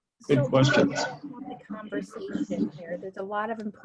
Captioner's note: audio distorting